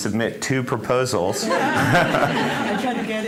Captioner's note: laughter